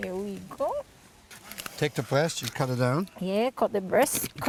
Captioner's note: slicing sounds